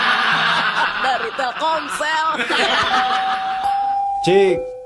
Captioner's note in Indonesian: tertawa